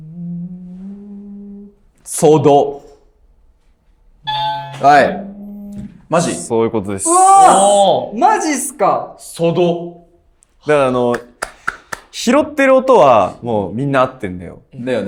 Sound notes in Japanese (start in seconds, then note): 4.2 正解音